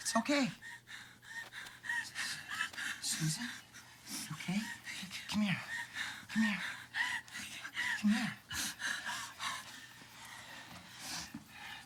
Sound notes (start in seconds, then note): 0.6 panting; 5.6 panting